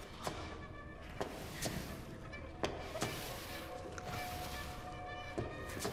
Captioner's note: footsteps shuffling